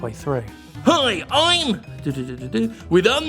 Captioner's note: quietly; aggressive mimicking voice